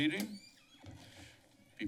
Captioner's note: door squeeking